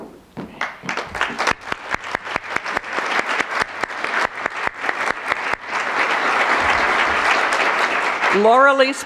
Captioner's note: applause